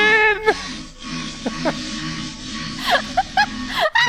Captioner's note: farting; laughing